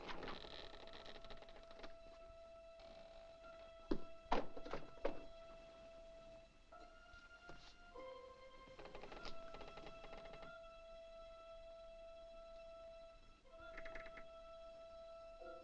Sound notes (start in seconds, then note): 0.0 creaking sound; 3.8 book thumps on ground; 6.2 tense music; 8.6 creaking sound; 9.4 tense music; 13.6 door creaks